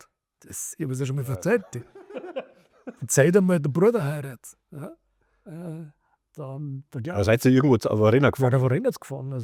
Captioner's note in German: gelächter